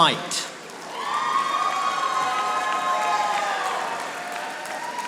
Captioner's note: audience applauding